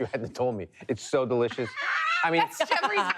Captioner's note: laughs